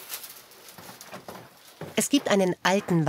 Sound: none

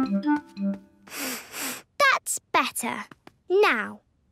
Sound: sniffs

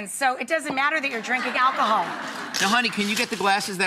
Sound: audience laughing

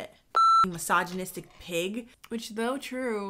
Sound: beep

